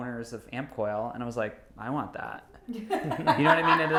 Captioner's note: laughing